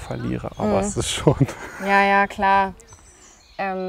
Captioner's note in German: lachend